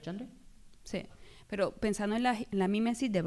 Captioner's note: speaking spanish